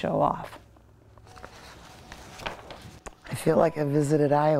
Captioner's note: papers rustling